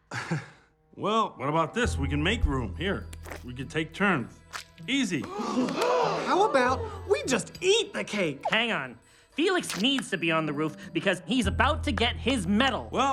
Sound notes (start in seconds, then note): 5.2 Nicelanders gasp